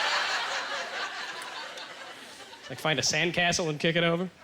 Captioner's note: audience laughter